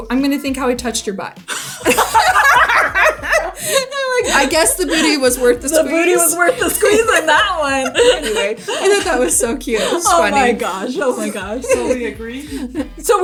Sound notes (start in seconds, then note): 2.1 both laughing